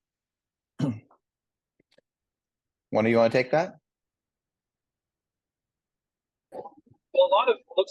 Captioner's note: cough